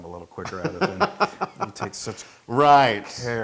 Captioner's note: laugh